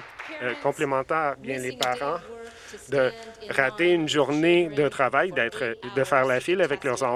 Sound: some Applause

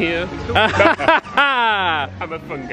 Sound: group laughing

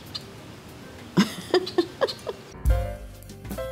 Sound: laughs

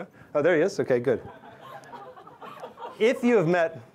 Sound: laughter

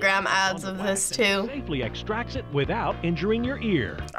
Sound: voice-over

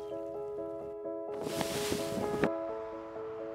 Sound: gentle piano music; wind blowing; water crashing

